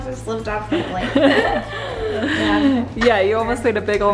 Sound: laughs

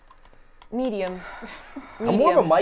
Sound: sighs

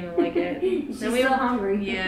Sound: laughing

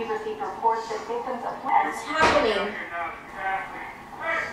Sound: television news reporter speaking

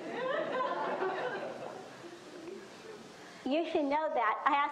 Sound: audience laughs

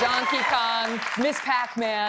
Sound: applause

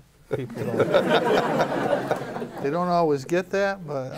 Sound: laughter

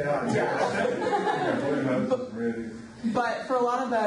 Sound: group laughs

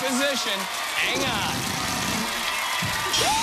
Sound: farting noise

